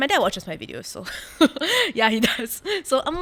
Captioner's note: laughs